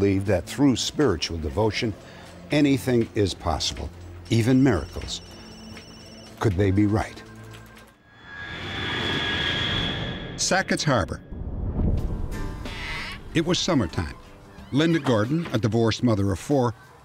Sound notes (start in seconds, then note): 4.2 phones ringing